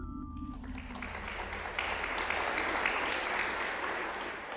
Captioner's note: applause